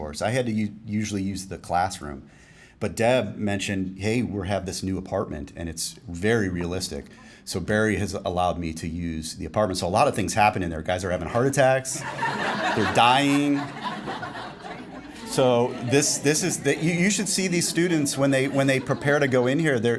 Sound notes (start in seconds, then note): 11.9 laughing